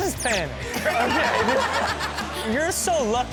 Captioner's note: audience laughs